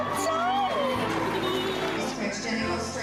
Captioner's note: Georgia laughing